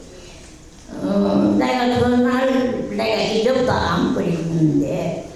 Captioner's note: speaking in foreign language